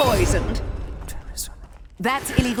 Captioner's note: whispering